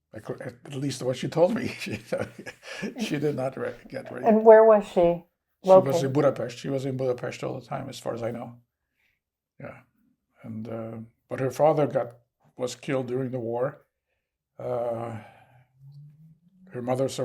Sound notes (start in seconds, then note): 1.4 laughing